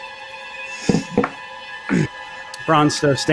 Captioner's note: clattering; clears throat